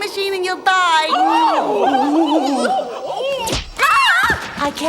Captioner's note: crowd gasps